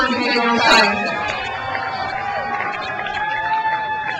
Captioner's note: crowd cheers